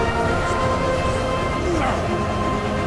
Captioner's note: grunting